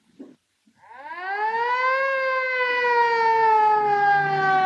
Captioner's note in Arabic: صافرة الإنذار تدوي